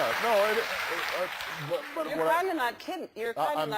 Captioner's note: applause